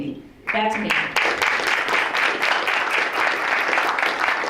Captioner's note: crowd applauds